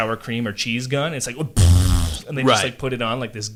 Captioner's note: blows raspberry